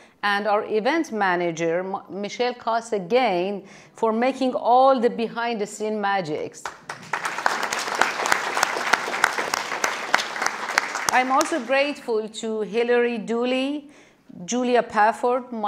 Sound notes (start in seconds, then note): 6.6 audience applauding